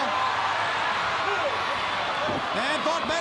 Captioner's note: crowd cheering